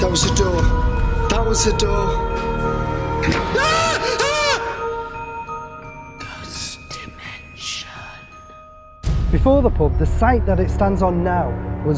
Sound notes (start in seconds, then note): 3.5 yelling; 6.4 ghostly Voice